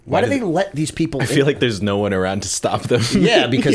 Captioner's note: chuckle